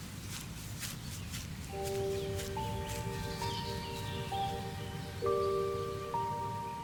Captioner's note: footsteps pattering; soft dramatic music